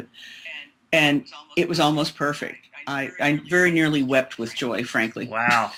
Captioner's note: laughs